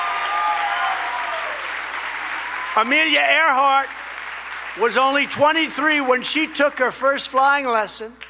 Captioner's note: applause